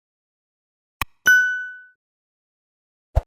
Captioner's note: bell chiming